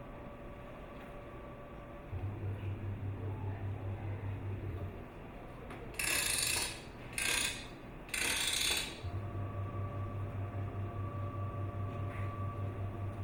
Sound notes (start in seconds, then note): 5.9 gear winding